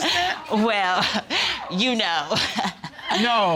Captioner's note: laughing